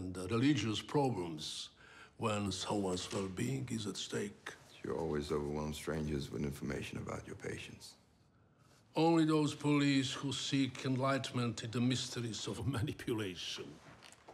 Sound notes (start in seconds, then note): none